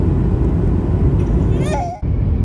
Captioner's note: screams